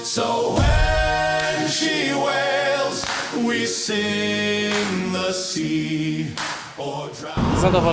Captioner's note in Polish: Aplauz